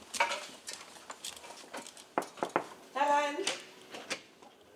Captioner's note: knock